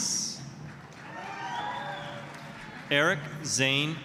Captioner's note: applause, cheering